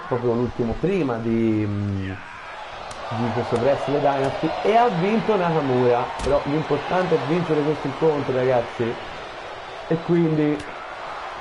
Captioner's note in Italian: Applauso